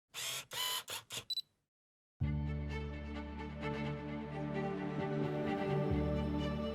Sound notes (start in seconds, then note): 0.1 whirring; 2.2 uplifting music